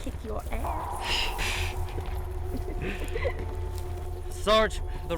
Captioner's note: laughing